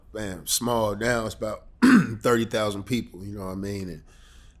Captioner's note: clears throat